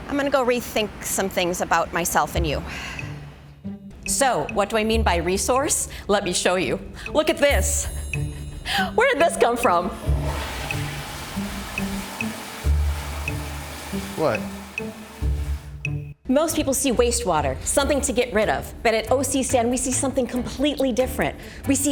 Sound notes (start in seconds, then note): 2.8 sighing; 3.3 bright playful music; 9.2 toilet flushing